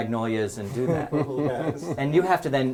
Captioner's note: laugh